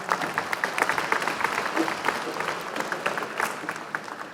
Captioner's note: applause